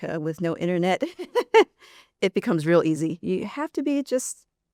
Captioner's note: chuckles